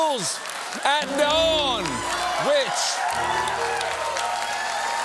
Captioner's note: applause